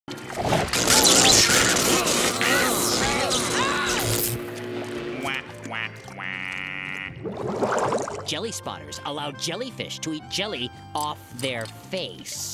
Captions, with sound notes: [buzzing] Wah, wah, wah... Jelly Spotters allow jellyfish to eat jelly off their face.